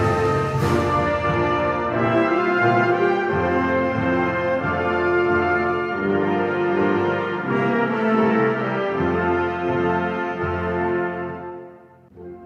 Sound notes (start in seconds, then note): none